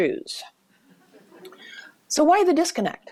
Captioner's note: soft laughter